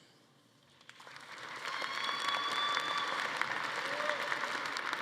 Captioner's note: audience applauding